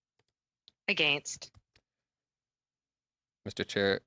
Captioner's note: speaking French